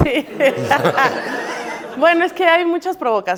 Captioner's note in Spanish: Risas